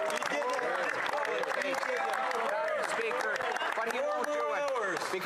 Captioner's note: applause